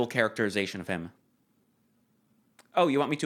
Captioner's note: pregnant pause